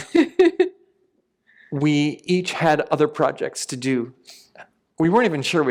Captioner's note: laughter